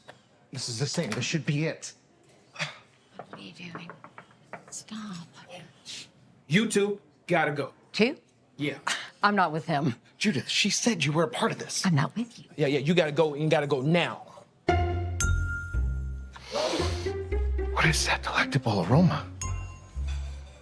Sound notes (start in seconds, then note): 14.6 gentle music; 16.4 Oliver sniffing